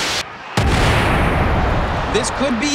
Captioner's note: static crackles; thuds; crowd cheers